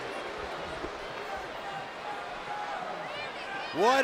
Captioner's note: crowd shouting